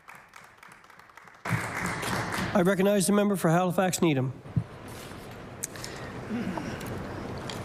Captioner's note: applause